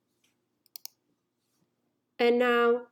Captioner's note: mouse clicking